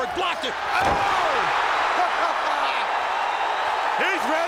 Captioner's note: fan screaming